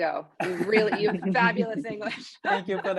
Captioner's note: laughing